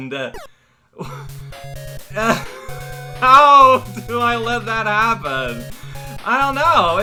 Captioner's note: laughing